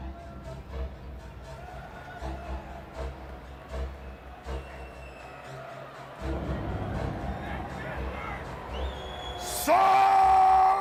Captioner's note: crowd cheering